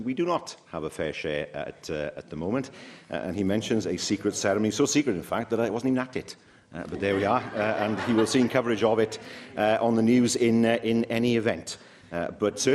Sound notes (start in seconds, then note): 7.0 laughter